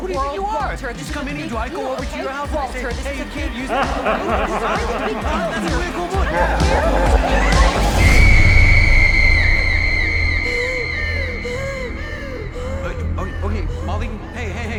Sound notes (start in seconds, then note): 0.9 laughs; 9.9 breaths heavily